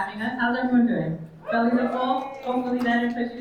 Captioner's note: attendees cheering